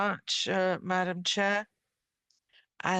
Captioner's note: speaking French